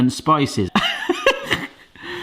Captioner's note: laughs